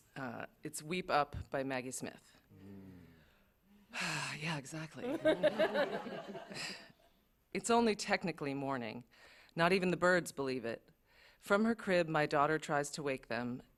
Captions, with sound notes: Uh, it's Weep Up by Maggie Smith. -Mm. -[sighs] Yeah, exactly. [laughter] It’s only technically morning. Not even the birds believe it. From her crib, my daughter tries to wake them,